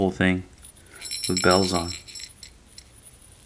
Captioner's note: bell ringing